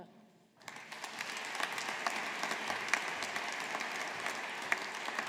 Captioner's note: audience applauding